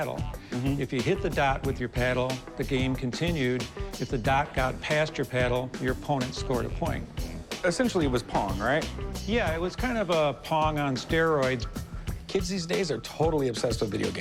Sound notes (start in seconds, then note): none